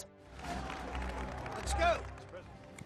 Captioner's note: crowd applauding